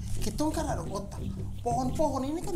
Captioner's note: laughing